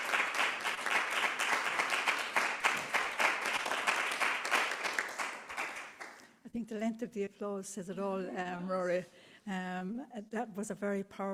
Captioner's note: applause